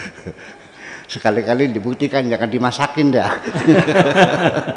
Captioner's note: laughs